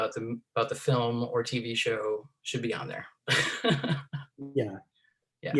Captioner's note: laughs